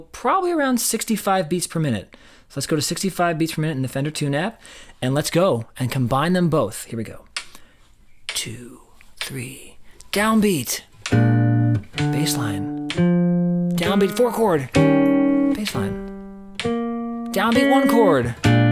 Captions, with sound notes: probably around 65 beats per minute. So let's go to 65 beats per minute in the Fender Tune app and let's go and combine them both. Here we go. (metronome begins tapping) two, three, downbeat. (guitar strums) bassline, downbeat to four chord, (guitar playing blues) bassline, downbeat one chord.